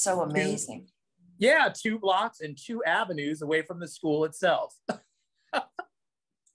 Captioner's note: laughs